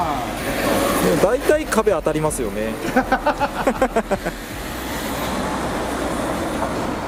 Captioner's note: laughs